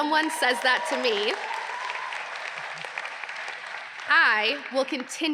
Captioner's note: audience applauding